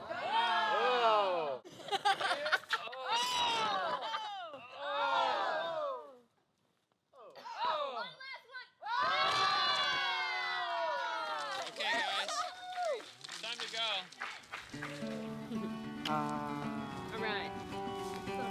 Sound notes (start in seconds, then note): 0.0 cheering; 1.7 laughing; 5.6 cheering; 8.8 cheering; 11.2 clapping; 14.8 soft music